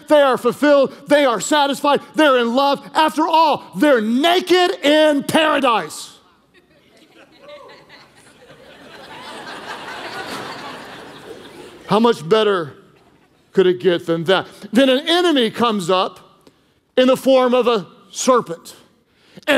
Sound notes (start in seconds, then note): 6.3 congregation laughing